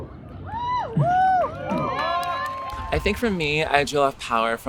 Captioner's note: cheering